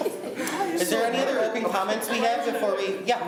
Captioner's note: laughs